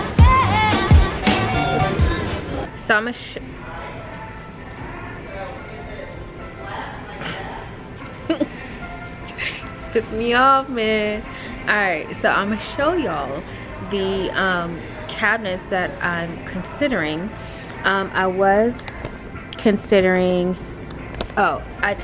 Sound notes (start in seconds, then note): 8.0 chuckles